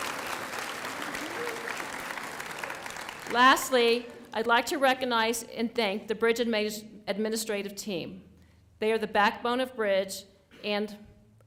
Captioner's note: applause